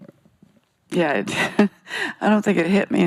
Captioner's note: chuckles